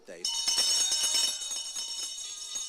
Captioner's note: bell ringing